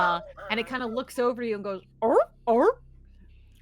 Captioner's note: seal honks